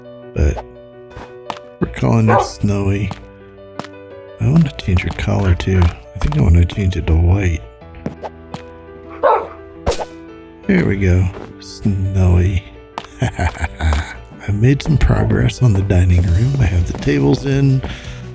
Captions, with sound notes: But... We're calling you Snowy. I want to change your collar too. I think I want to change it to white. [dog barks] There we go. Snowy. [laughs] I've made some progress on the dining room. I have the tables in.